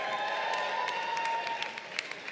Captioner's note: crowd cheering